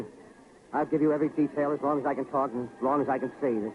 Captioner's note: none